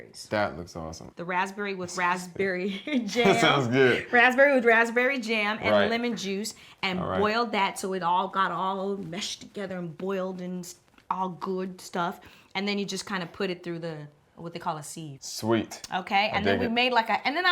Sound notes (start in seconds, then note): 3.0 laughs